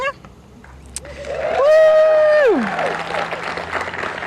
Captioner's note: applause